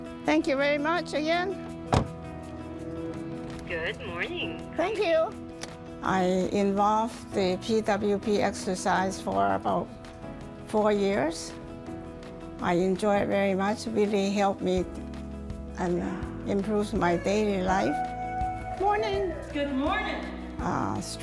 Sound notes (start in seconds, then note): 1.9 door closes